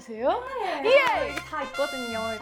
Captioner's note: automatic clapping